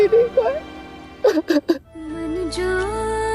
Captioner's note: sobbing